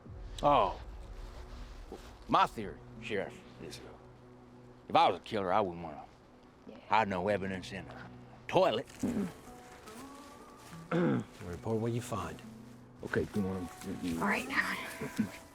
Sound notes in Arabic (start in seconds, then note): 10.8 ينظف الحلق